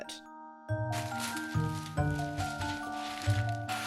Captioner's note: paper rustling